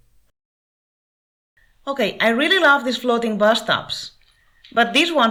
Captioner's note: English